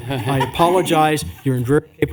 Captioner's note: laughter